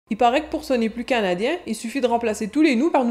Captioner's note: in European French accent